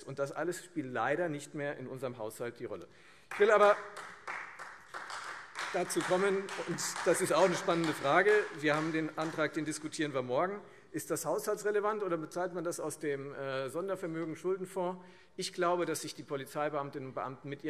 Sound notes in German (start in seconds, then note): 7.3 Beifall Freie Demokraten